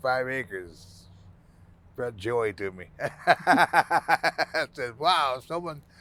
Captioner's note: laughing